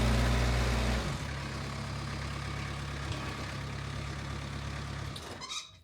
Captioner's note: machinery rumbling